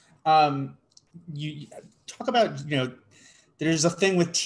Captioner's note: none